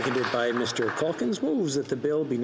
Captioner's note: some Applause